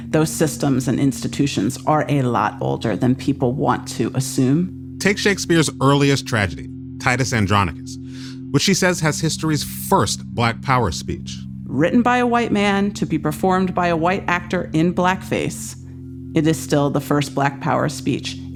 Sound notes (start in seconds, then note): none